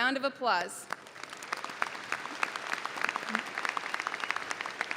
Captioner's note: audience applauding